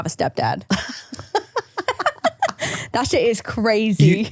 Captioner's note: both laughing